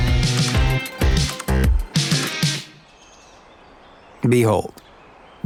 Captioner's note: slideshow clicking